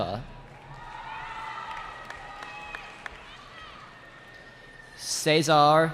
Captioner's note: cheering